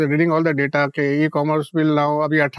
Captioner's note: speaking in Hindi